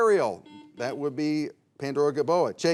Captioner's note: bell chimes